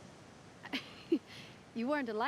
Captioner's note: chuckle